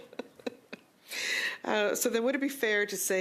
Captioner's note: laughter